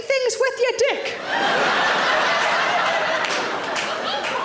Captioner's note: audience laughing